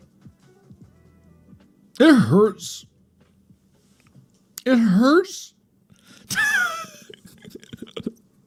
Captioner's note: laughs